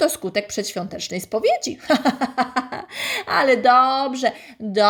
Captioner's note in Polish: śmiech